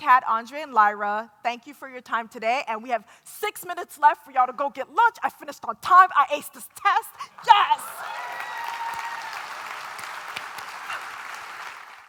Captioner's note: applause and cheers